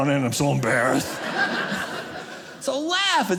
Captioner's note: audience laughing